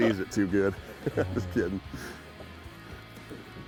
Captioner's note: laughs